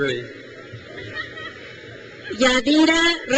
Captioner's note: attendee laughs